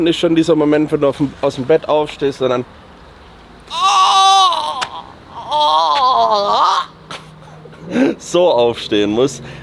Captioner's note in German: schreien; stöhnen